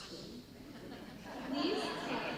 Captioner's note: audience laughter